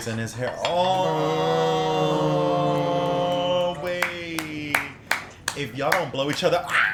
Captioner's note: queer panel "aww"s in sarcasm